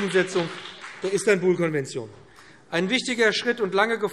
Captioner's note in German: Beifall BÜNDNIS 90/DIE GRÜNEN und vereinzelt CDU